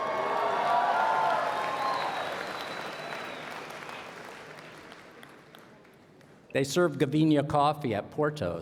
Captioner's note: cheers and Applause